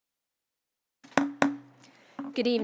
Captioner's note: gavel hitting dais